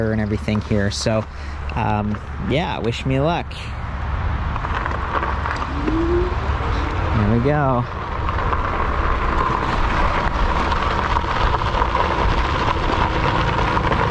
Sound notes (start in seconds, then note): 3.9 bike's motor whining; 8.3 bike's motor thrumming